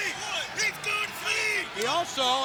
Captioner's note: crowd cheering